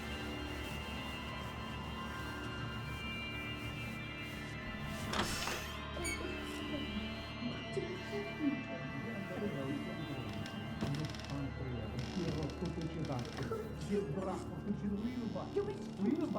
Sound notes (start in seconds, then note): 5.9 door squeaks; 6.8 man and woman chatters; 12.4 arguing in unknown foreign language